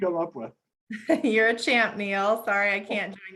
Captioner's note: laughs